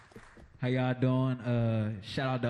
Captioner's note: applause